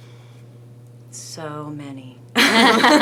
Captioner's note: laughing